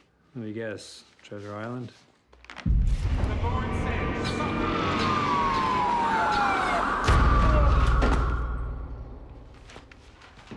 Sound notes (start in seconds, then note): 3.7 sirens wailing